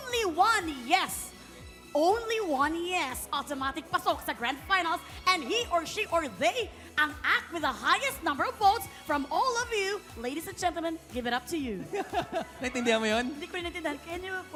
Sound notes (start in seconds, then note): 11.8 robi giggles